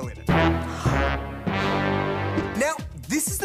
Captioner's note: gasps